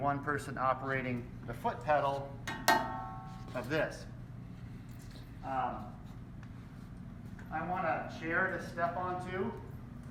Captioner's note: clang, clang